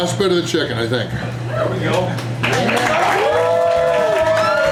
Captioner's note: crowd; crowd clapping and cheering